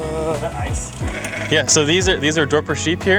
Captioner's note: sheep bleating